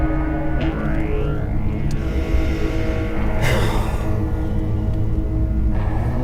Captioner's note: sighing